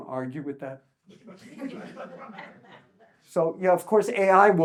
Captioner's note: audience chuckles